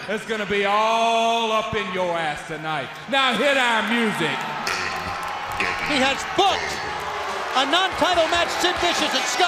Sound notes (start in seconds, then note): 5.3 crowd cheering